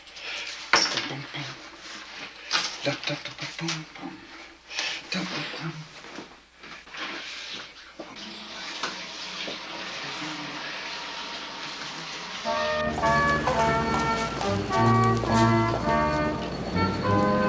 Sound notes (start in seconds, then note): 0.2 scatting; 8.0 water splashing; 11.8 bright holiday music playing; 14.4 bell ringing